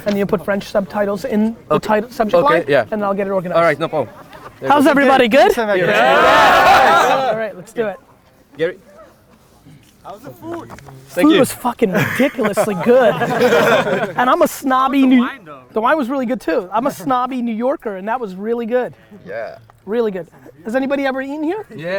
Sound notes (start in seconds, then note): 11.8 group laughter